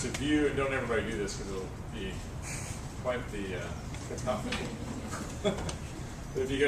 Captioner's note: laugh